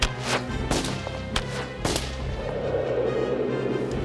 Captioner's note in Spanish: flechas explotando; viento silbando